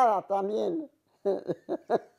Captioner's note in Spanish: Ríe